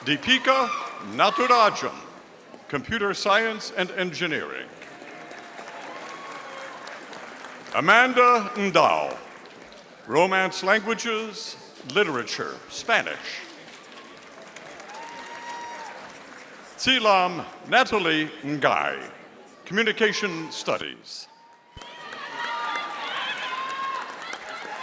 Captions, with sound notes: Deepika Naturajam, Computer Science and Engineering. (audience applauding) Amanda Ndal, Romance Languages, Literature, Spanish. (audience applauding) Silam Natalie Ngai, Communication Studies. (audience cheering)